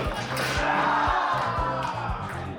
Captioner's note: metal clattering; group cheers and shouts